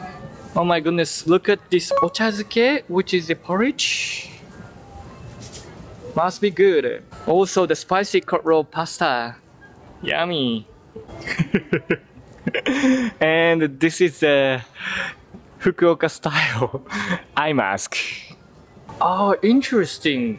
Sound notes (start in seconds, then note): 12.4 chuckle